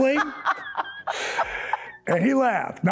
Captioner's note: laughing